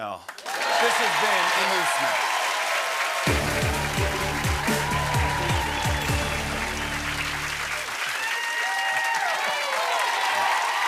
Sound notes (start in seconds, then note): 0.1 cheering and applause; 5.3 whistling; 9.1 cheering and applause